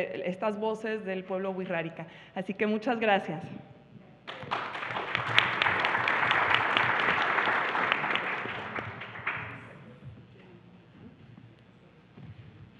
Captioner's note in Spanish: Aplausos